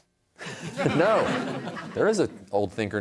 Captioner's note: laughter